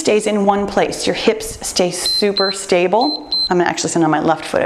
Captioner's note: timer beeps